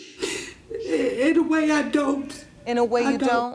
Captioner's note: sniffles